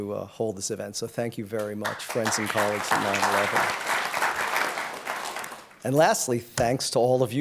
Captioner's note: applause